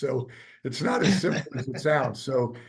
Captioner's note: laughing